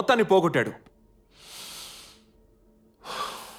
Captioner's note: exhales